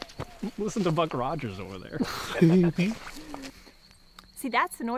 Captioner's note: laughing